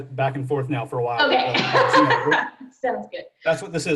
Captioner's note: laughs